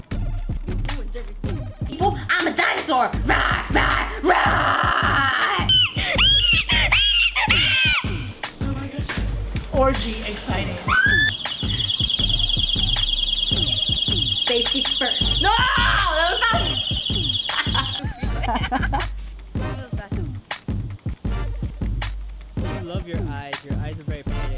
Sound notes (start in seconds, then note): 15.9 laughs; 17.3 group laugh